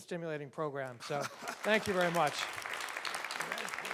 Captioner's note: audience applauds